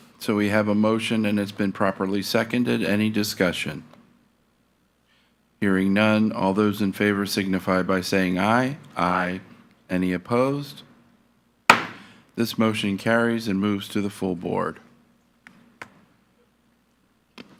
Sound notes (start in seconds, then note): 11.7 gave thuds